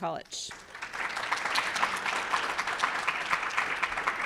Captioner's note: audience applauds